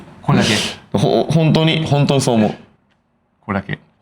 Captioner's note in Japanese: 咳払い; 鼻息